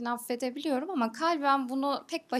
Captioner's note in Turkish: none